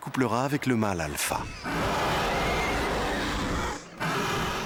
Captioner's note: both snarling